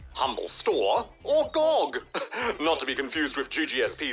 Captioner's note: chuckles